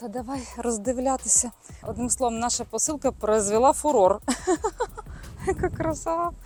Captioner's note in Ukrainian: сміх